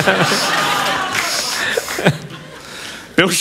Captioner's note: laughter